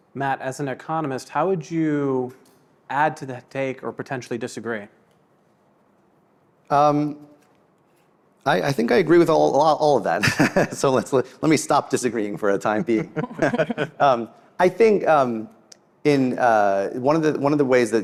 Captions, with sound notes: - Matt, as an economist, how would you add to the take or potentially disagree? - I think I agree with all of that. So let me stop disagreeing for a time being. (laughs) I think one of the ways